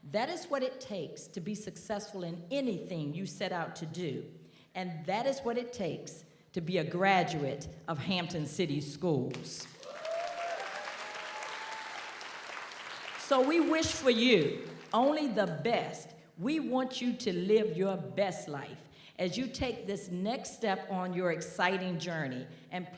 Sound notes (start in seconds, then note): 9.6 audience applauds; 9.7 audience cheers